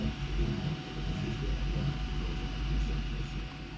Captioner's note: radio in the background